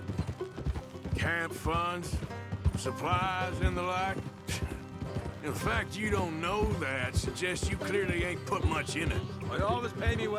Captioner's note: sighs